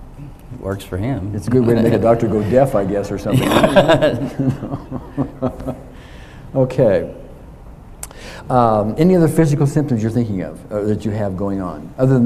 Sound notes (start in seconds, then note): 3.3 both laugh